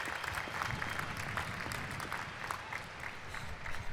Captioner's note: applause